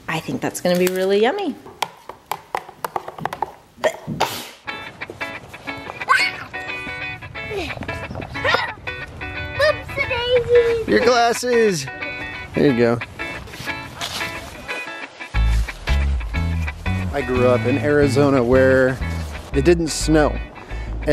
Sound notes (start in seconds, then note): 3.8 sneezes; 4.9 upbeat pop music; 6.2 shouts; 8.4 grunts; 13.0 crunching feet